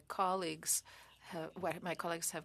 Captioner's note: speaking French